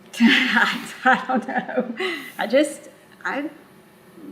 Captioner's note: laughs